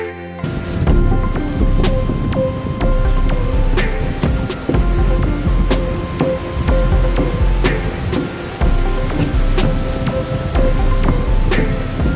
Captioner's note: wind blowing, music, and dancing footsteps